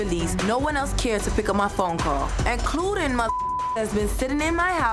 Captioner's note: beep